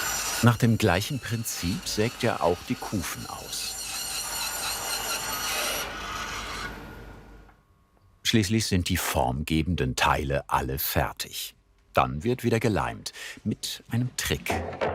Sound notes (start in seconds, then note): 3.9 squeaky sawing noises